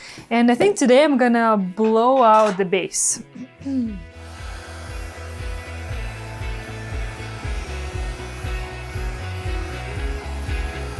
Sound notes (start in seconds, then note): 4.1 blow dryer blowing; 5.4 soft guitar music